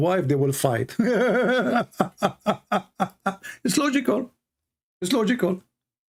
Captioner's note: Ketawa